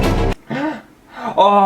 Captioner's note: dramatic Music; gasp!